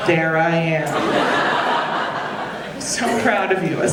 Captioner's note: audience laughing